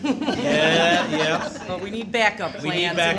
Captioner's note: laughter